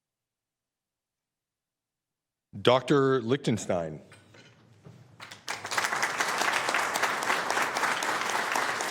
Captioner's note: applause